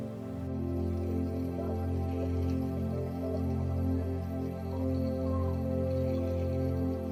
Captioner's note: gentle music continues; tourists chattering